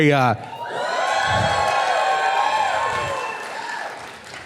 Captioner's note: whooping and clapping